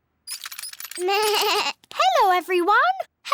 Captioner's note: bleats